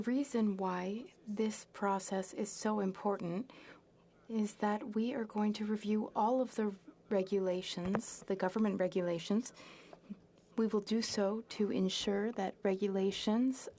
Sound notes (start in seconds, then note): 3.6 speaking French